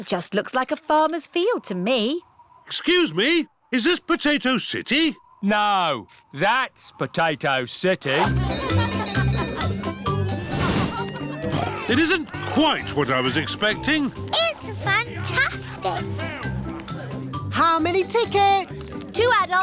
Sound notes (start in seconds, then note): 9.0 cheerful jingling; 11.9 oinks